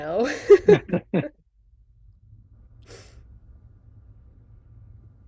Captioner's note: chuckles